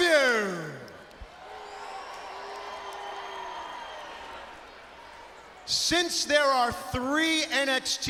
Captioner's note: crowd cheering